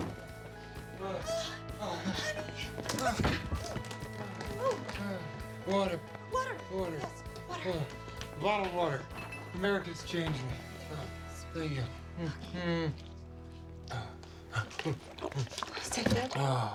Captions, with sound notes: MOTHER. OH, GOD. OH, HONEY! (grunts) OH! UHH. (panting) WATER. WATER! WATER. YES, WATER. BOTTLED WATER. AMERICA'S CHANGED ME. THERE YOU GO, SWEETIE. OH. THANK YOU. MM. MM. (pants) (sighs)